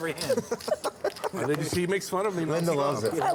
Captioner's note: laughing